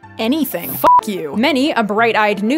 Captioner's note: beep